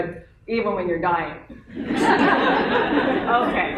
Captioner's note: laughter